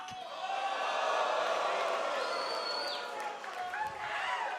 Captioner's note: audience reacting